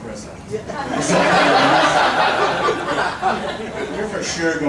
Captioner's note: audience laughing